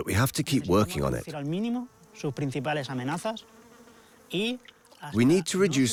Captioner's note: French spoken audio